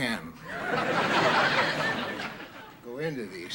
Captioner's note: audience laughing